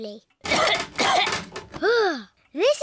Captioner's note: coughs